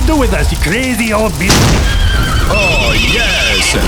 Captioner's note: explosions thump; horses neigh